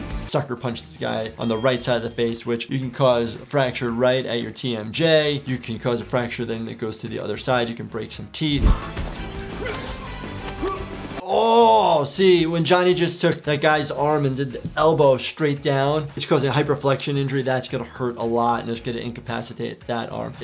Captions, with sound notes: Sucker punched this guy on the right side of the face which you can cause a fracture right at your TMJ. You can cause a fracture then that goes to the other side. You can break some teeth. (intense music) (loud grunting) Oh! See when Johnny just took the guy's arm and did the elbow straight down it's causing a hyper flection injury. That's going to hurt a lot and it's good to incapacitate that arm.